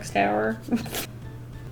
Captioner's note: chuckles